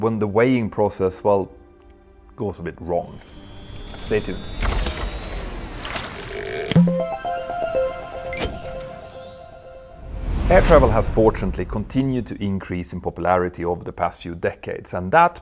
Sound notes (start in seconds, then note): 6.6 playful chime